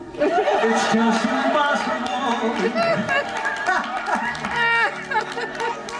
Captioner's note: both laughing